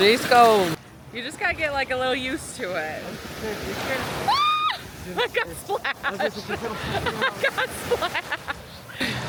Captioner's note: screams